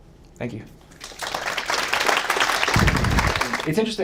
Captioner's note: audience claps